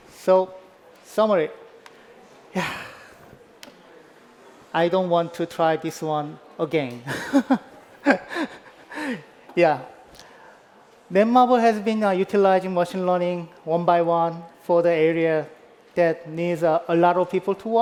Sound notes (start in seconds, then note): 7.1 laughs